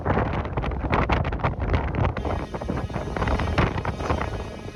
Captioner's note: steam whistle exchange